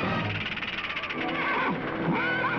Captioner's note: snake rattling; horses whinnying